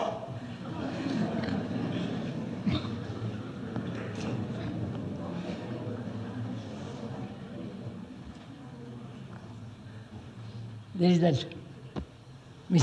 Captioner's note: laughter